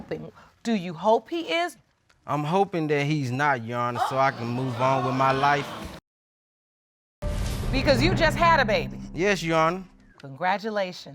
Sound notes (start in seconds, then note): 3.9 audience exclaiming